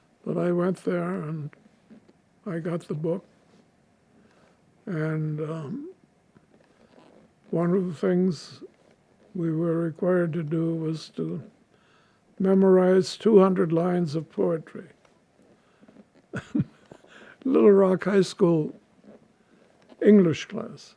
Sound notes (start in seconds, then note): 16.3 laughing